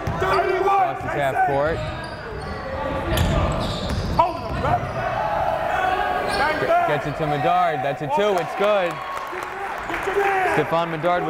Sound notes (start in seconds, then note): 0.1 yelling; 4.3 yelling; 10.3 clapping